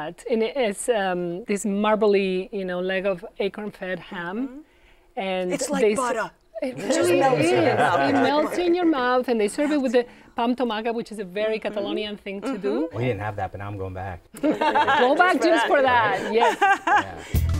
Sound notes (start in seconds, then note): 5.6 new York accent; 14.4 laughter